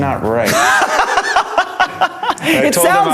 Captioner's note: laughing